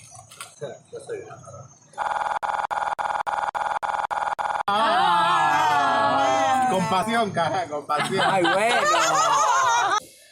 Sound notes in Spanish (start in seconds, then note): 2.2 Se escucha un ruido distorsionado; 5.8 risas; 7.9 risas